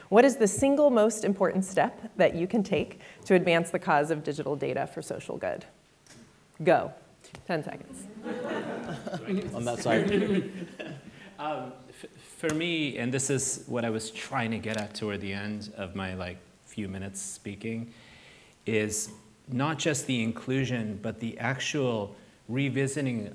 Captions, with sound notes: what is the single most important step that you can take to advance the cause of digital data for social good? Go, 10 seconds. (audience laughs) - On that side. - For me, and this is what I was trying to get at toward the end of my, like, few minutes speaking, is not just the inclusion, but the actual revisiting